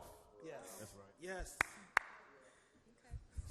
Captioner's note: claps